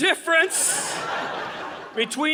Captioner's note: audience laughing